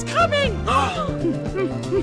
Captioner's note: gasp!